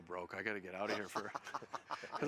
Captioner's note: laughs